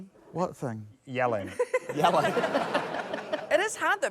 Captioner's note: laughter